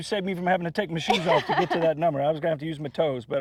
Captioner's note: laughs